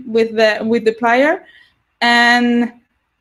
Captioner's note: none